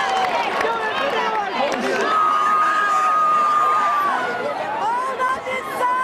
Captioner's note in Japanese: 拍手